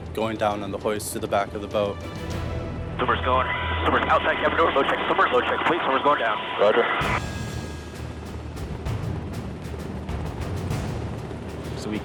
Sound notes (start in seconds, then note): 4.2 radio chatter; 7.0 simmering, adventurous music